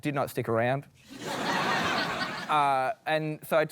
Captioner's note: laughter